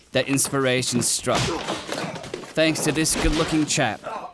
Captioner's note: impact grunts